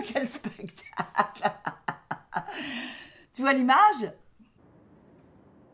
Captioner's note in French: ricanement